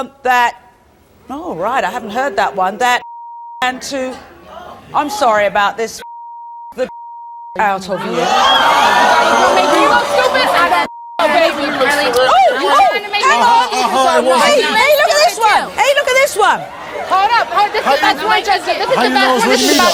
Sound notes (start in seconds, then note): 3.1 beeps; 5.9 beeps; 8.2 audience boos; 11.6 audience boos; 12.7 yelling; 17.6 yelling